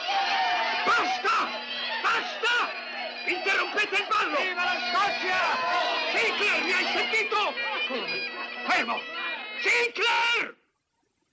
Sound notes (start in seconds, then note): 4.5 yelling